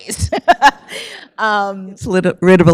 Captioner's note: laughs